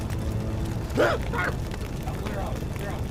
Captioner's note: Tim coughing